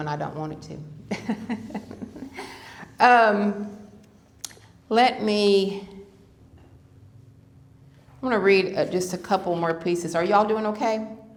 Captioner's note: laughter